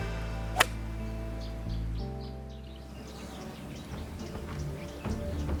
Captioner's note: golf club strikes a golf ball